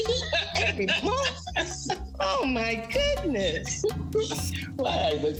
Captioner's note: laughing